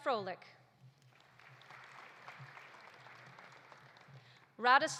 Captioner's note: audience applauding